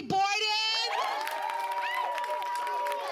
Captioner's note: applause